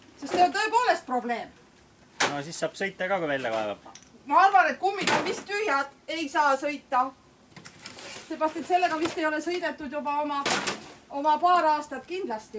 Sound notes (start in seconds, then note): none